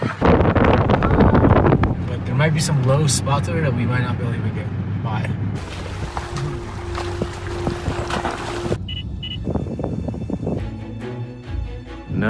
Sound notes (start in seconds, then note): 0.2 wind whooshing; 5.5 water swishing; 8.8 machine beeps; 10.9 upbeat music